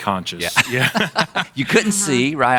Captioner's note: laughing